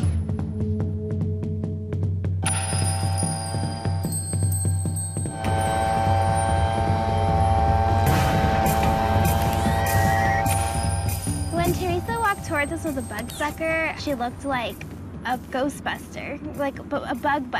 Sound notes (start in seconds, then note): 0.8 drums play in syncopated rhythm; 5.3 whirring